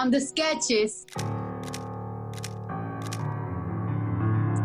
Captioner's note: camera shutters